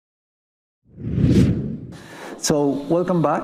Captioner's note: wind whooshing